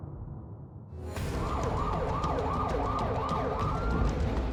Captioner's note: sirens blaring